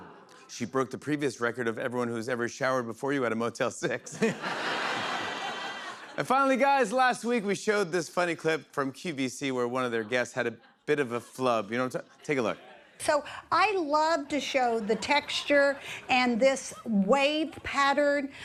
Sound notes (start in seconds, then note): 3.9 laughter